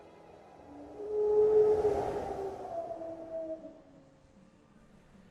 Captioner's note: howl